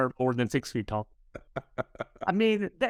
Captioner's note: laughs